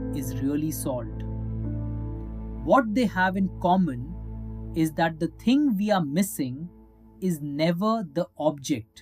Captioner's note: thoughtful